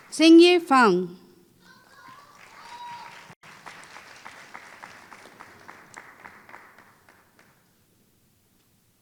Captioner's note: applause